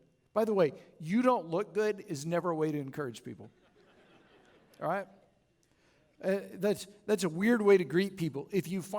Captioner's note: chuckles